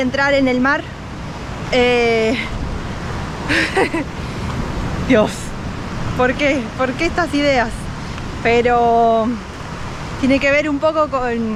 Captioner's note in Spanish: risa nerviosa